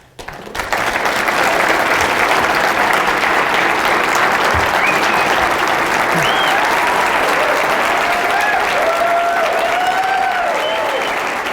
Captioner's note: applause